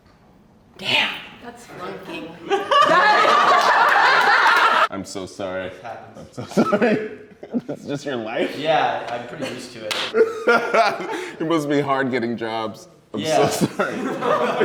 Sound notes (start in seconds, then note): 2.4 laughter; 10.9 laughs